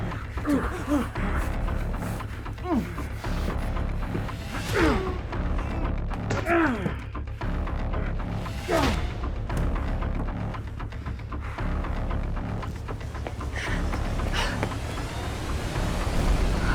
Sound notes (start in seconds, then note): 0.0 Johnny grunting; 4.4 strike thudding; 6.1 kick thwacking; 8.5 strike thudding